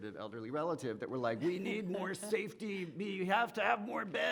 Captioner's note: woman laughs